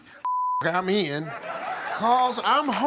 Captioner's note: beep; audience laughing